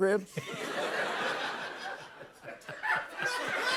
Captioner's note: laughter